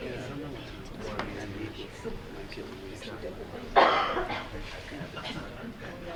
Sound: board members murmuring

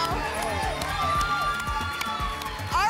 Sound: applause and cheering

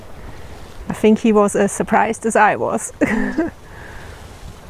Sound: laughs

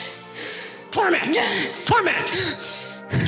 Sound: congregant grunting

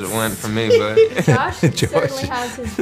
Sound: laughs

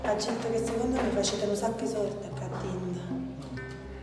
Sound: speaking in Italian

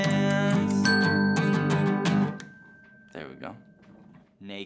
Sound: timer dinging

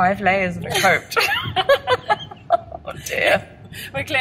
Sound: both laugh

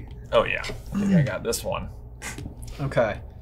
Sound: scoffs

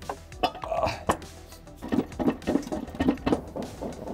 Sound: metal bumping

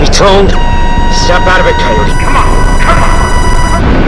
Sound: target lock beeping

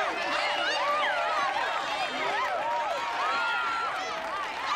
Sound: cheering

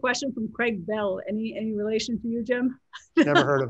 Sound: laughs

